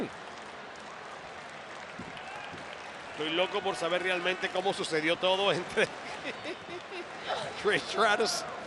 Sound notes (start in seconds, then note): 0.0 applause; 6.0 laugh